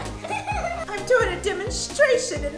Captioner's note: laughing